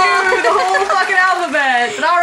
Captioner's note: laugh; audience Clapping